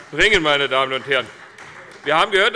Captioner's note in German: Beifall CDU